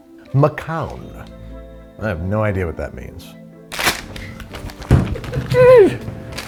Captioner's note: yells